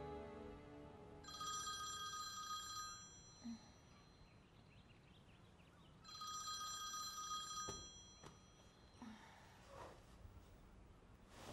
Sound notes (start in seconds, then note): 1.2 phone ringing